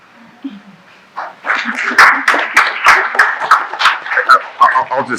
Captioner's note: applause